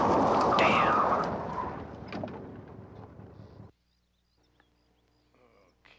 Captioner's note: tires screeching